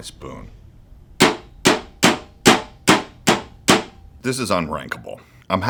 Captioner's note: spoon pounds